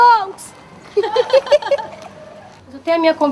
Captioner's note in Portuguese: Risadas